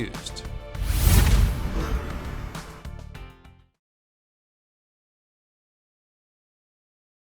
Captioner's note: bright music continues; air whooshes